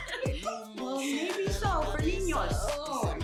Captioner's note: Spanish